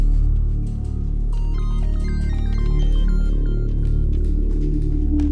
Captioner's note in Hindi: फोन की घंटी बजना